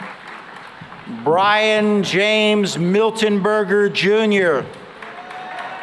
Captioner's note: cheering and applause